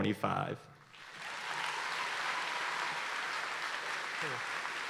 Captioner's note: audience applauding